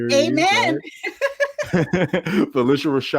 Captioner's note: laughter